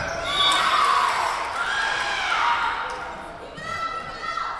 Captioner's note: whistle blowing